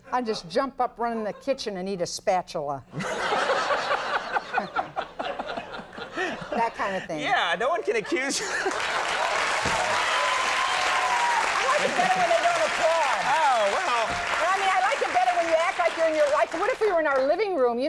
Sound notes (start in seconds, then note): 2.9 audience laughing; 9.6 audience applauding